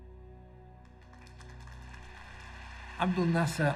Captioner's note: audience applauds